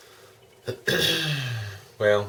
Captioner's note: clears throat